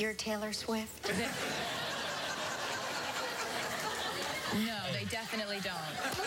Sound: laughter

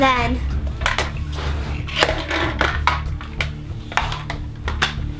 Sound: clattering

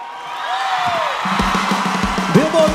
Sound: audience applauds

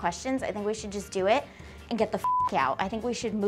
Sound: beep

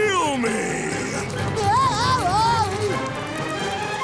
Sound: groaning

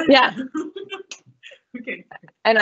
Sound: laughs

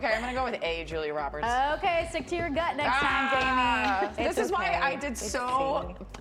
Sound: laughter

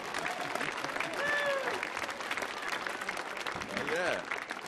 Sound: audience applauding

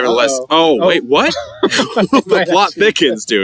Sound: laughing

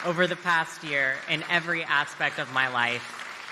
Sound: cheers and applause

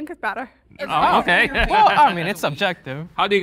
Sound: laughs

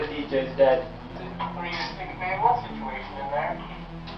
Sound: on Radio

